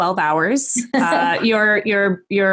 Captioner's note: Arlene laughing